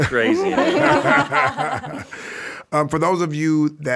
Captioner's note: guests and hosts laughing